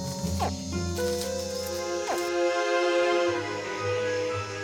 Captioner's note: caiman squeaking